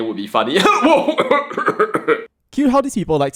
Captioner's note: cough